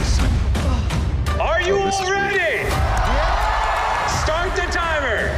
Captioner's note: contestants cheering